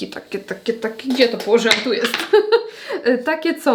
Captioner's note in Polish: śmiech